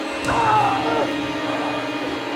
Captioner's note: shrieking; grunting; growling